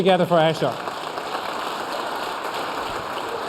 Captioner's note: applause